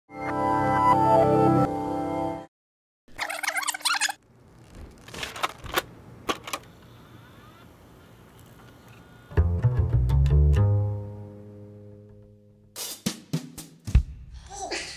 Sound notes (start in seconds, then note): 3.1 tape deck rewinding; 4.5 tape loading into tape deck; 9.3 jazz music